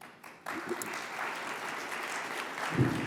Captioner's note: audience applauds